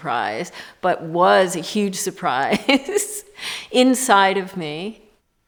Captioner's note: laughs